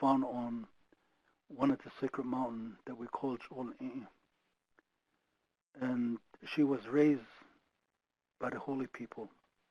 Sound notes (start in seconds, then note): 3.2 speaking foreign language